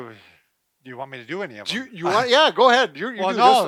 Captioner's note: laughs